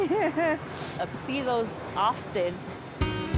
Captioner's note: laughing